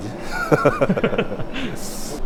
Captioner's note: creepy laugh